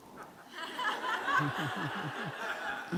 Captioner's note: group laughter